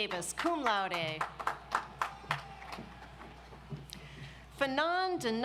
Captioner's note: audience applauds